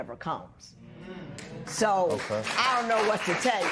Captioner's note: applause